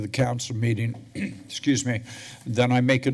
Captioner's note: clears throat